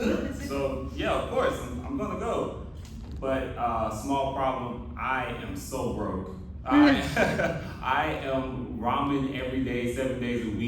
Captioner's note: laughter